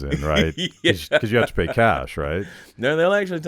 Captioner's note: laughing